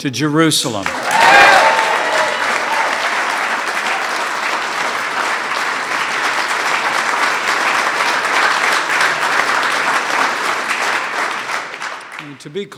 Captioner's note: applause